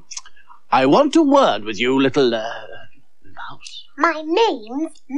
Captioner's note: whispers